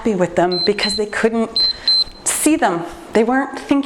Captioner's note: timer beeps